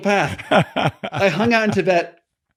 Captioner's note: laughing